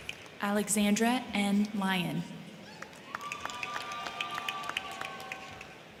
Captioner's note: crowd cheering